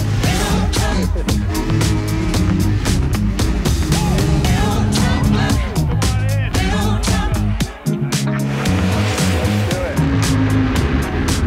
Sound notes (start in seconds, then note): 8.1 laughter